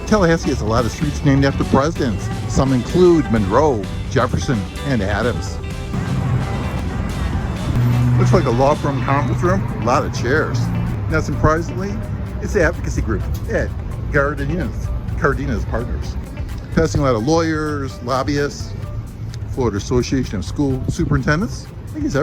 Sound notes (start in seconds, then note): 6.1 car engine rumbling; 6.1 light music